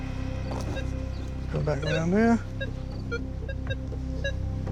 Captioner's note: metal detector beeping